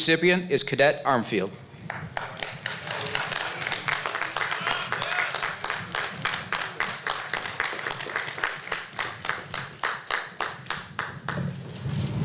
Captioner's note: applause